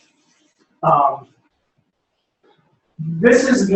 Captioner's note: pause